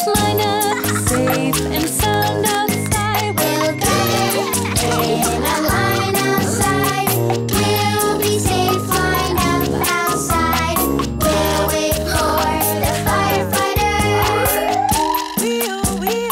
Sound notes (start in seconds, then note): 12.3 children giggling